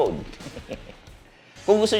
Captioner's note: laughs